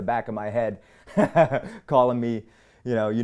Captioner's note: laughs